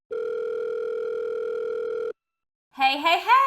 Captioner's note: phone rings